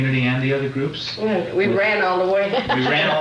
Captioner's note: laughs